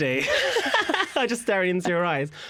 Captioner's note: laughter